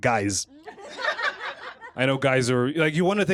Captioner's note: laughter